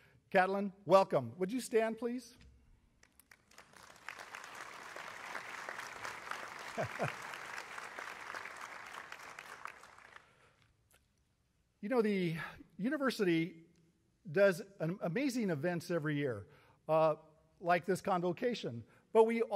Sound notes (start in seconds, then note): 3.0 applause